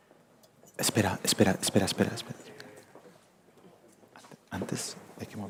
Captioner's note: speaking in foreign language